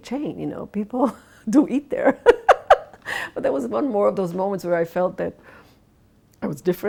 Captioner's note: laughs